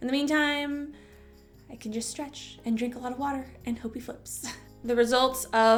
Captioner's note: chuckle